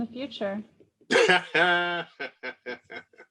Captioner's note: laughs